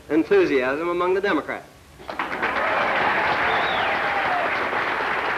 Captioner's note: applause